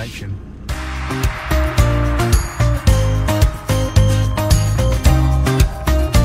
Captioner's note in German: Beifall